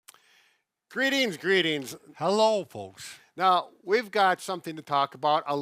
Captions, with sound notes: - (inhales) Greetings. Greetings. - Hello, folks. - Now, we've got something to talk about.